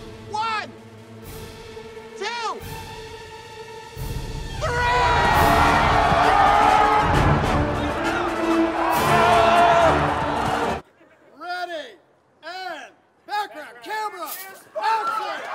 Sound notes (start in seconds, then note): 0.2 exciting music; 7.0 all cheering